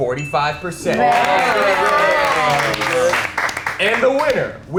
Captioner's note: contestants cheering